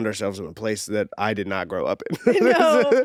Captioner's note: laughs